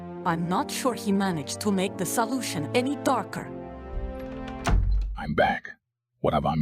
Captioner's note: door closes